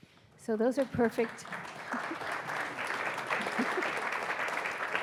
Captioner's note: audience applauding